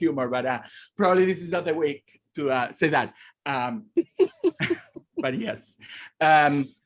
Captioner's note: laughing